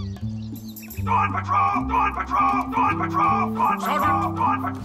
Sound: alarm

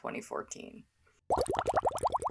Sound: bubbles

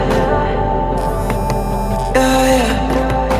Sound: vibration sound

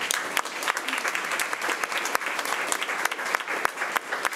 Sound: crowd clapping

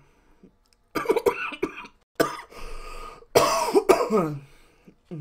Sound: coughing

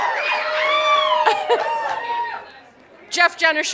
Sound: cheers and applause

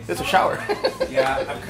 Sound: chuckles

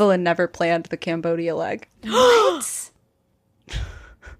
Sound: gasping

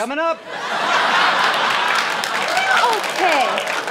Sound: laughter

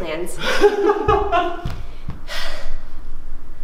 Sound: laughs

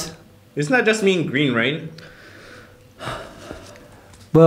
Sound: sighs

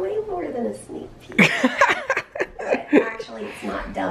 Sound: laughing

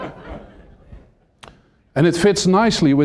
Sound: laughter

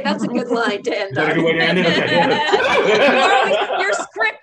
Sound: all laughs

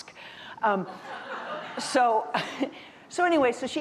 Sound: audience laughing

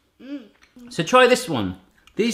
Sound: none

